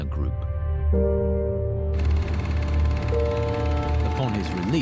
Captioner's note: slow dramatic music; film reel clicks and whirs